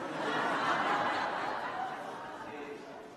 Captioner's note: laughter